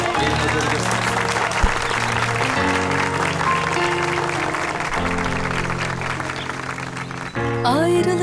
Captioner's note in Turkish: alkış sesi